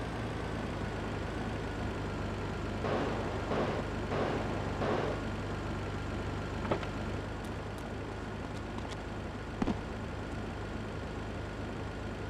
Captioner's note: sirens wailing